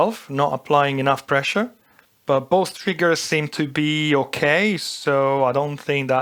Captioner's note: none